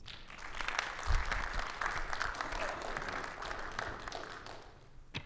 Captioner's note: audience applauding